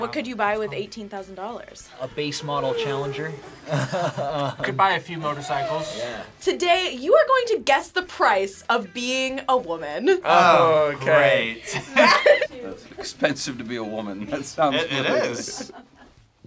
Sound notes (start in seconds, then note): 1.9 laughs; 11.6 React laughs